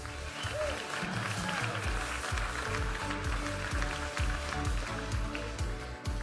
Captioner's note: audience applauding and cheering; upbeat music